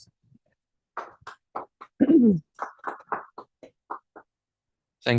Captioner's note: applause